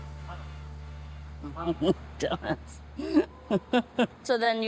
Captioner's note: chuckles